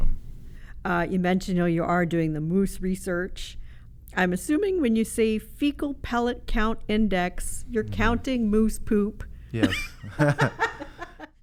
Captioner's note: laughs